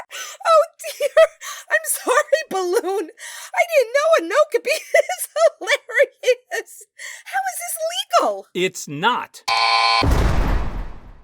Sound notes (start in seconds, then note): 9.2 buzz; 9.9 jail bars slam